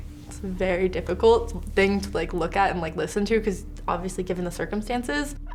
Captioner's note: none